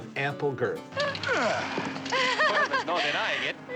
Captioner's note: giggles